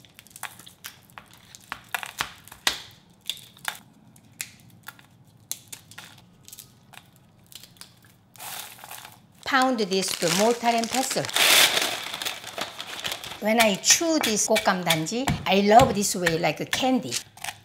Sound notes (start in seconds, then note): 0.1 nuts cracking; 10.0 nuts thudding; 11.3 paper crinkling; 17.4 spoon thudding